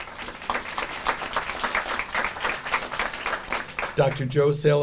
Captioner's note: audience applauding